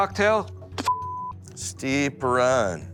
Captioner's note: beep